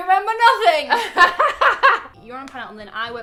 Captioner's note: laughs